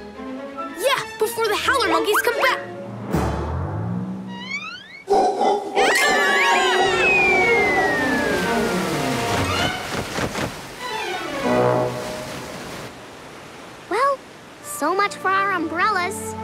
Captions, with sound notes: Yeah, before the howler monkeys come back! [monkeys howling] [screaming] Well, so much for our umbrellas.